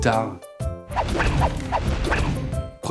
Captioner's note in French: woosh woosh woosh woosh